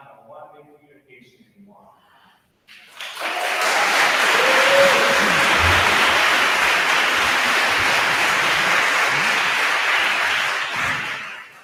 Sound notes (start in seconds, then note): 2.7 attendees applauding; 2.7 attendees cheer